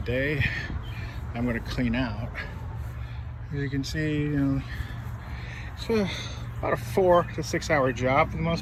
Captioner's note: sigh